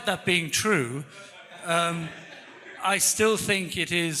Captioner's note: audience laughing